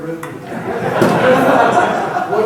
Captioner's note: crowd laughing